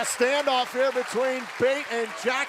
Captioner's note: cheers and applause